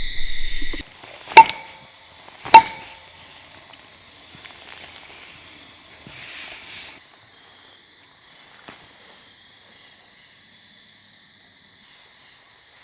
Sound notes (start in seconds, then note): 1.7 knocks